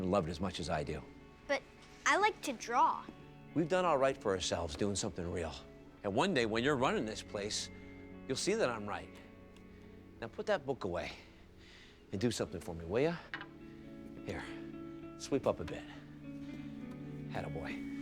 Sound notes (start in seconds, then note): none